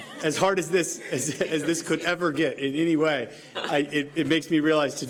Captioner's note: laughter